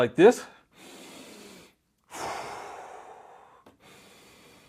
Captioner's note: breathing in and out